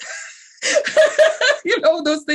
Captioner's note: laughs